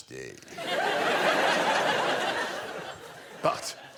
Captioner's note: laughter